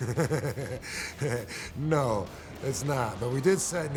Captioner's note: laughs